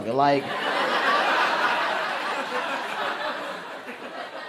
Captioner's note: crowd laughs